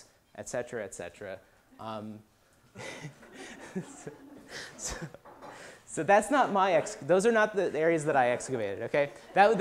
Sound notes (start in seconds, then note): 2.8 laughter